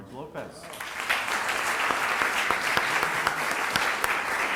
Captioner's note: applause